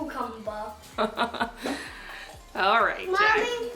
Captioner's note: laughing